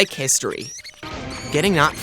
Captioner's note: TV noises